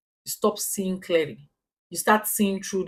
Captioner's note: paause